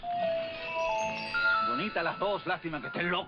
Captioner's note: speaking spanish